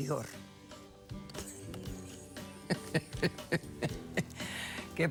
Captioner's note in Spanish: risas